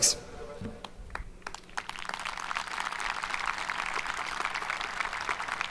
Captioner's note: audience applauding